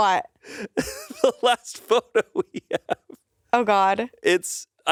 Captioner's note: laughs